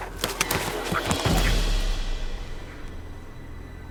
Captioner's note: winded in pain